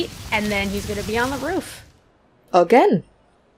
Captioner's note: leaves rustling and wind blowing; rustling stops